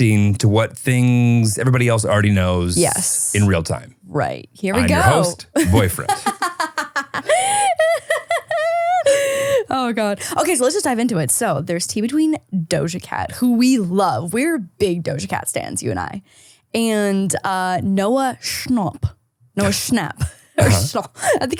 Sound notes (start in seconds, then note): 7.0 laughing